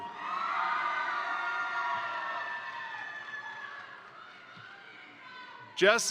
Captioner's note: crowd cheering; crowd applauding